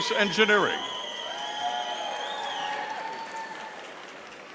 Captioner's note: audience cheering